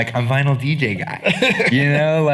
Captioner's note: laughing